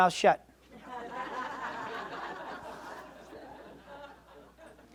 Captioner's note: audience laughs